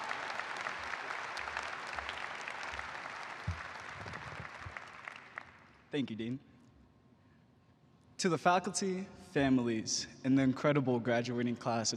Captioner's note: applause